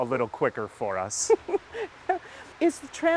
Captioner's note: laughing